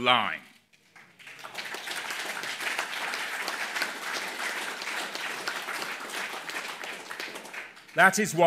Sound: applause

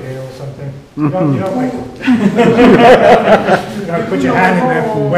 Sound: laughter

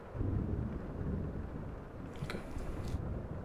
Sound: cracking thunder

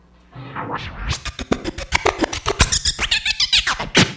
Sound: record scratching

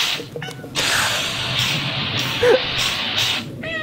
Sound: laughs; soft meow; rock music; laughs; rock music; soft meow

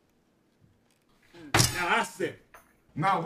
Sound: slams table

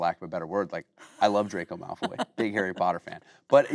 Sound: Kate laughing

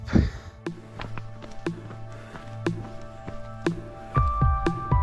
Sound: footsteps crunching

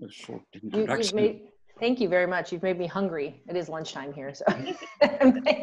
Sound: laughter

